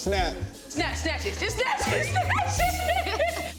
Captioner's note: Iyana laughs; laughs